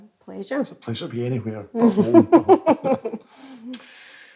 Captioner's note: laughs